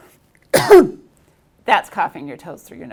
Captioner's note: speaker coughing